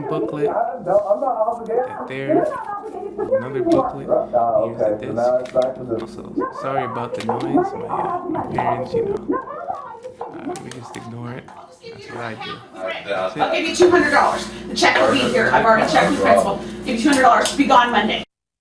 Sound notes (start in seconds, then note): 12.8 sounds of parents arguing becomes loud and clear